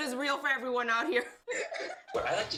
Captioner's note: laughs